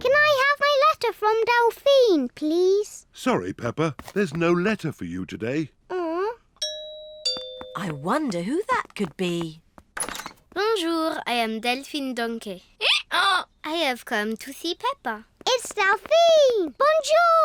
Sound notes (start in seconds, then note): 6.3 groans; 6.6 doorbell; 13.5 brays